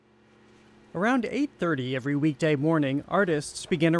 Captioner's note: voice-over